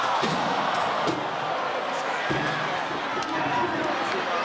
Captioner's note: audience cheers